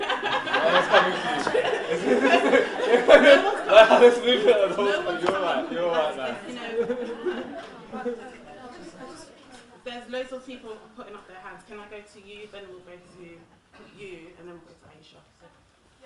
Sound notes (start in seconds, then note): 1.7 audience and panelists laugh